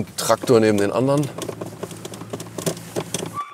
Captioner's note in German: Knisternde Geräusche